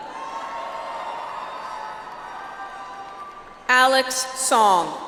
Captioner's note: audience applauds